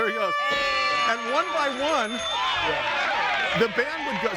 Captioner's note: trumpet music; audience cheering